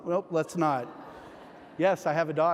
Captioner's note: audience laughs